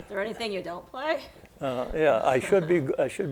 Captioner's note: laughs